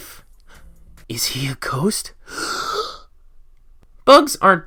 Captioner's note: gasp